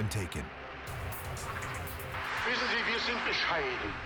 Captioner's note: German dialogue